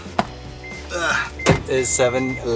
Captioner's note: grunts